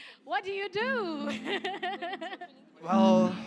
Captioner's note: laughs